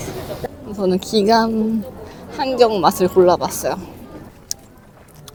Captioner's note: laughs